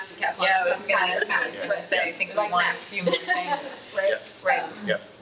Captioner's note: attendees chattering